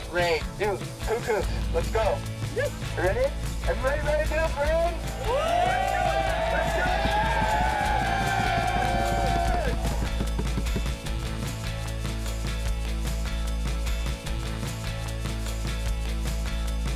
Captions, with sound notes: Parade, dude, cuckoo, let's go. You ready? Everybody ready? (surfer shouting) (upbeat folk music)